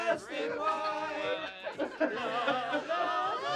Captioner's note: laughter